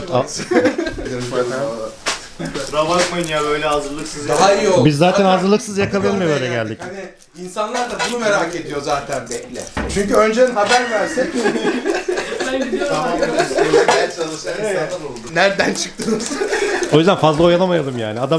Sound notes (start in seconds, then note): 10.6 laughter; 16.6 laughing sounds